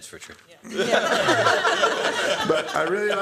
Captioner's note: laughter